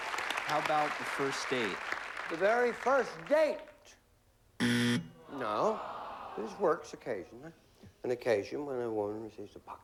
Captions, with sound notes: HOW ABOUT A FIRST DATE? THE VERY FIRST DATE. [BUZZER] NO. IT WORKS, OCCASIONALLY. AN OCCASION WHEN A WOMAN RECEIVES A BOX OF CANDY.